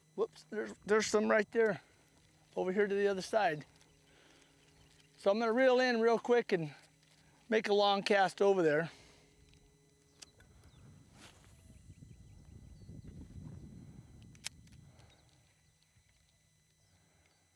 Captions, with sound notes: There's some right there over here to the other side. So I'm going to reel in real quick and make a long cast over there. [reel closing]